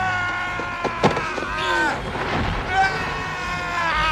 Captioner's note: tires squealing